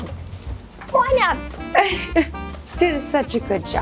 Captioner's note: laughs